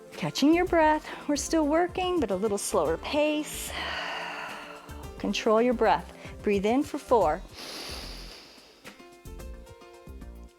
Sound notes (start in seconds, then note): 3.6 exhales; 7.5 inhales